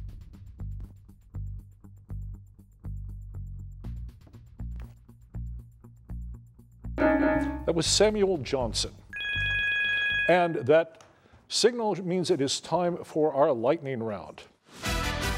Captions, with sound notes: [bell dings] That was Samuel Johnson. [bell rings] And that signal means it is time for our lightning round.